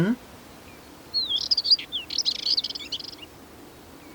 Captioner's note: bird song